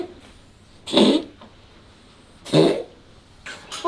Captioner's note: cough